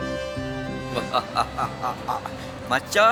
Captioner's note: laugh